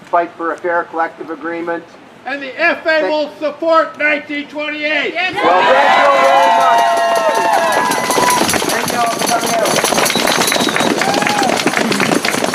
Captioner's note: applause